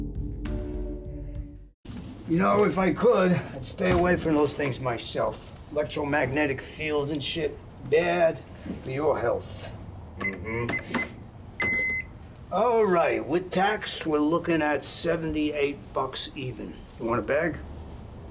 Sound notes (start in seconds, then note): 11.6 beeping